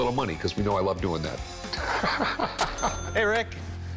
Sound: laughs

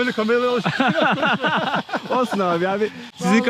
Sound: laughter

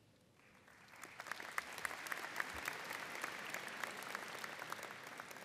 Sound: audience applauding

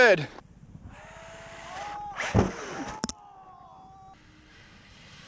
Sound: RC truck wheels spinning

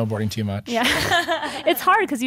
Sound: laughing

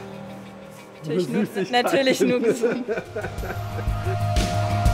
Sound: laughs

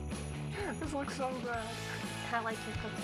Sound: laughs

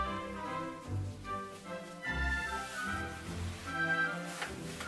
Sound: fabric rustling

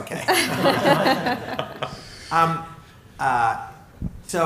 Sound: laughter

